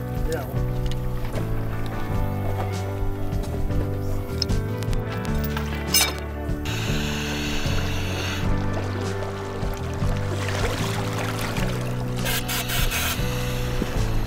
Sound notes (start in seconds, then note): 2.1 soft music; 12.2 air blowing